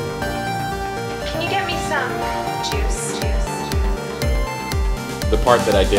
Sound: juice echoing

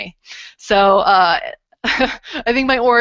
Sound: laughter

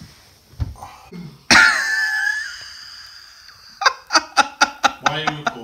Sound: laughing

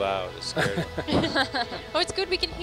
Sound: men and women laugh

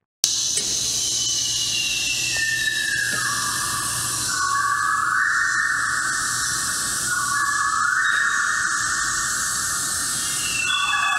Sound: synthesized rainforest sounds

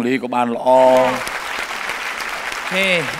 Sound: applause

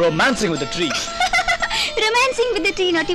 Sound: laughing

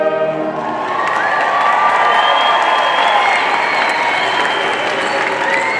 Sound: audience cheering and applauding

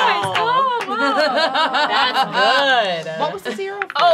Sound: laughing

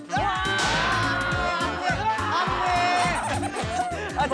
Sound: screaming

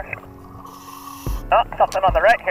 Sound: air hisses

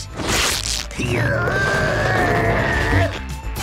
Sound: grunting

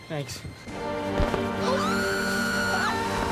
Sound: both screaming

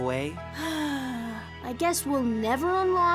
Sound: sighing

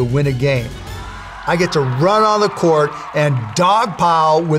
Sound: crowd cheering

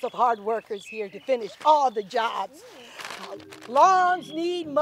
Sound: gasping

